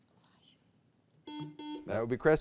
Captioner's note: buzzer beeps